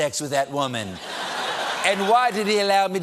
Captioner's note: laughter